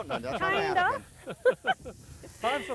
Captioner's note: laughing